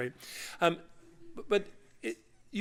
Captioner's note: laughter